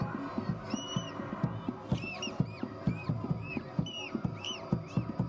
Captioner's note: village sounds